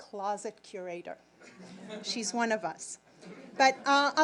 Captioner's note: audience laughing